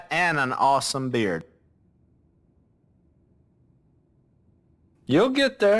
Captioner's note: silence